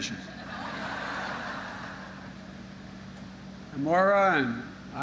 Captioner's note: laughter